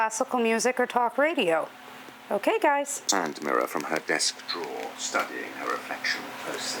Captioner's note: audio book plays